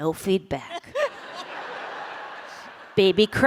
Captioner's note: laughter